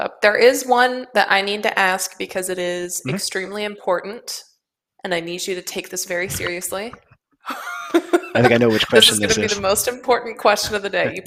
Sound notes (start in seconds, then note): 7.4 laughter